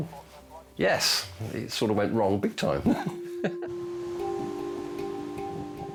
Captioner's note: chuckles